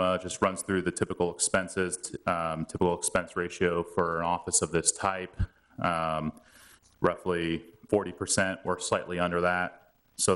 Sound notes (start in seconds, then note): none